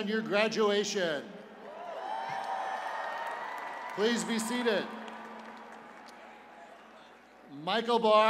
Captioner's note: cheers and applause